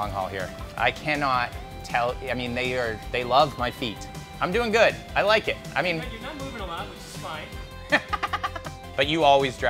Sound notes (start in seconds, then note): 7.8 chuckles